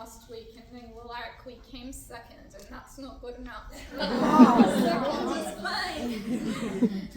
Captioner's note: laughter